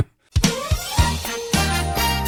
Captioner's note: laughs